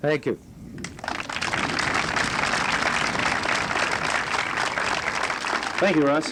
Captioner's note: applause